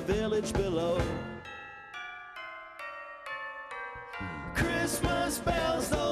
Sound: bells chiming

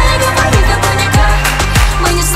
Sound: clap clap

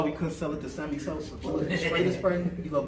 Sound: laughing

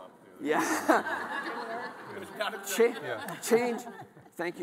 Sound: all laughing

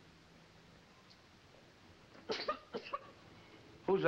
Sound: coughs

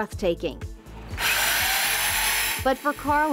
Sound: drill whirring

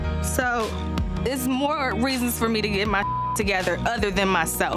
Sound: beep

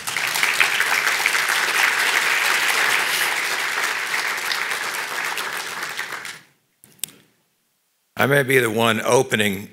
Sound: applause

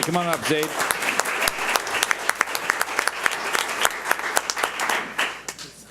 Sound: audience applauds

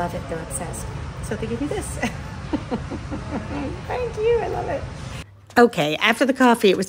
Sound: chuckles

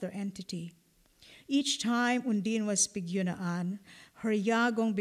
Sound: non-english

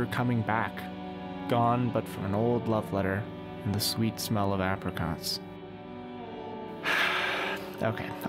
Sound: melodramatic sigh

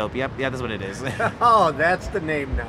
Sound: laughing

